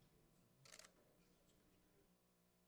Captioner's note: camera shutter clicks